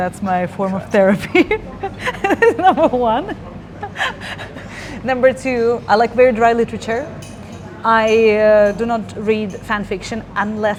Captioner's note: laughing